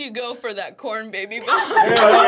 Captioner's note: laughs